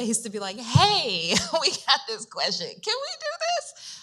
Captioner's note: chuckles